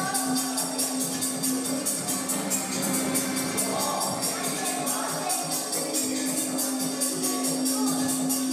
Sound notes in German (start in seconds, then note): 3.0 Stimmengewirr im Hintergrund